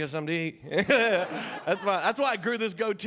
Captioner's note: audience laughing